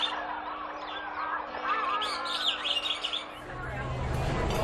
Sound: Pájaros cantando

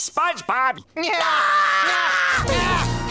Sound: screaming

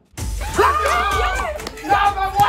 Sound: participants cheer

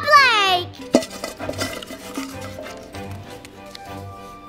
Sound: metal bucket clanking; uplifting Christmas music

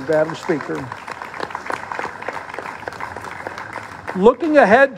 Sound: applause

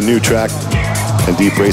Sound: audience sighs

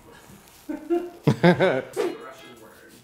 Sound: laughs

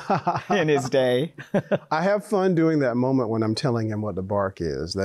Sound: both laughs

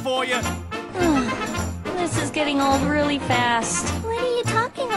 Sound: sighs

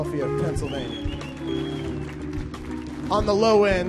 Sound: audience cheers

